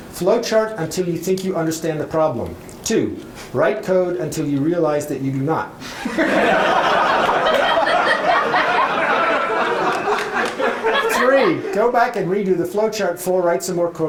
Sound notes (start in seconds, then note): 8.5 laughter